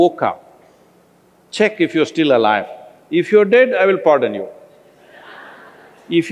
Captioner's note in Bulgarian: Смях